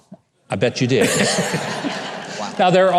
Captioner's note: audience laughing